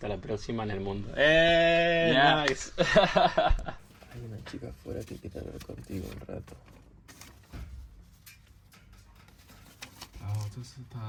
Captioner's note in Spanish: risas